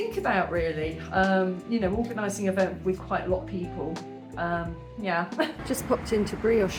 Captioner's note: laughing